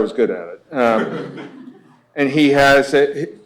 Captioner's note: laughter